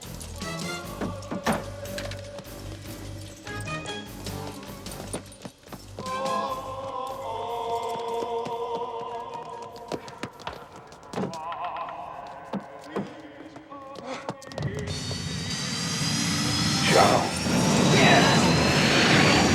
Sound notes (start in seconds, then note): 6.9 religious singing; 15.0 motor whining